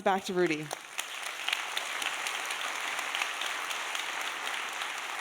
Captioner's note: audience applauding